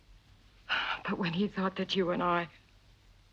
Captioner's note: sighs